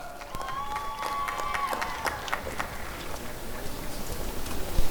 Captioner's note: applause and cheering